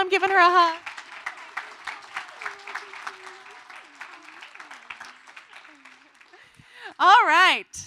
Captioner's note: applause